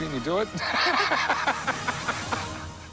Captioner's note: laughs